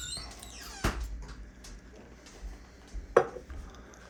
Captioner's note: door opens, Morrie enters